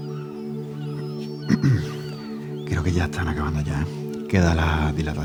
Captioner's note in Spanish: carraspea